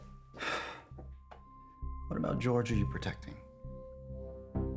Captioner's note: sighs